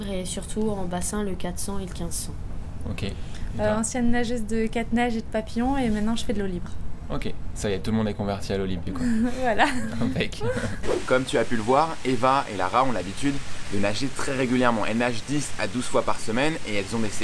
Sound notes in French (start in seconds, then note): 8.9 rires